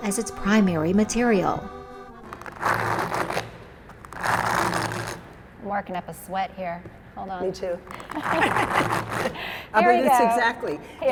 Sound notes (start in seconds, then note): 2.1 comb scraping; 7.9 laughing